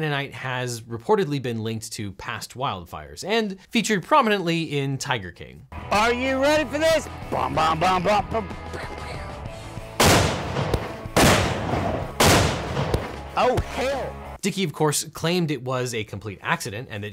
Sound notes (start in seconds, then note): 10.0 mimics gunshots; 10.0 gunshots firing